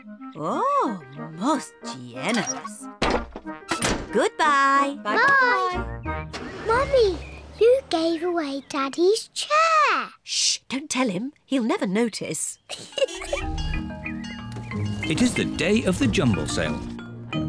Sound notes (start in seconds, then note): 12.6 giggles